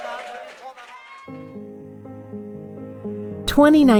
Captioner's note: cheering